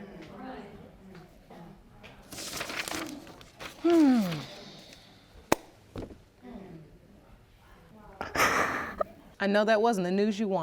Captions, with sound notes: (JUDGE LAKE SIGHING) (SOBBING) I know that wasn't the news you wanted.